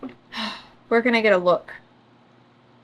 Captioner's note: sighs